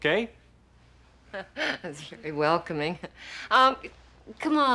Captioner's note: laughs nervously